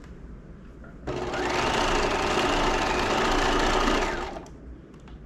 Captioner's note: sewing machine whirling